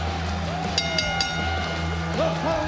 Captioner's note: bell rings